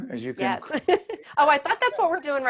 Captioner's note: laughing